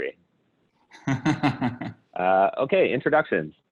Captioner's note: laughs